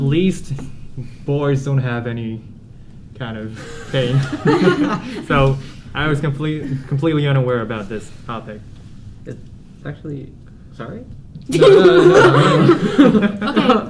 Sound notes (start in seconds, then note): 4.2 giggles; 11.9 laughter